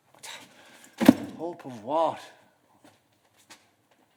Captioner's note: beckett's holdall thuds to the floor